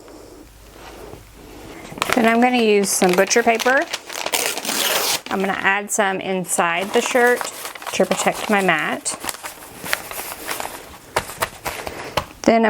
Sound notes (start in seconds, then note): 4.2 paper tearing; 9.2 paper rustling